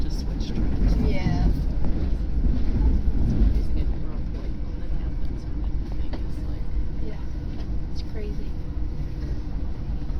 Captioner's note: Acela Express switching tracks roughly